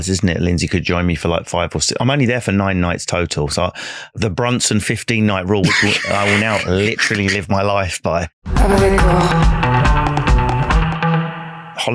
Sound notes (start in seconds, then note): 5.6 laughing